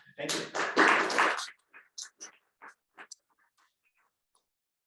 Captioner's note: audience applauding